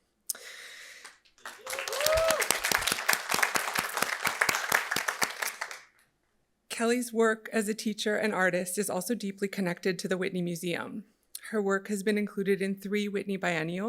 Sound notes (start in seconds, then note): 1.3 audience applauding; 1.4 audience cheering